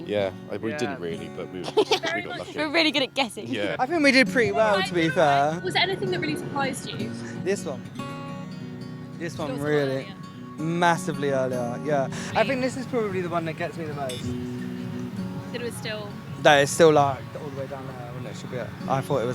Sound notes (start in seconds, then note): 1.6 laughter